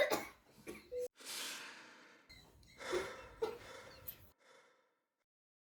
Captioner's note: deep inhale and exhale